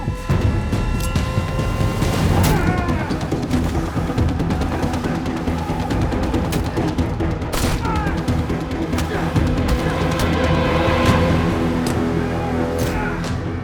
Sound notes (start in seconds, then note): 2.2 blade piercing flesh; 5.7 punching sound; 7.5 gunshot cracks; 9.3 fighters grunting; 10.7 suspenseful music; 13.4 fighters grunting; 13.4 suspenseful music